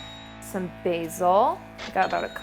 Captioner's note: cash register chimes; cash register chimes